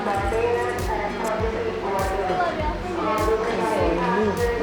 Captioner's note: airport intercom